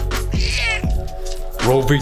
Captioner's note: Charlie meows